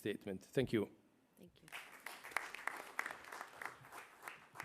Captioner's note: applause